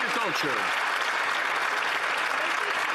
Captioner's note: some Applause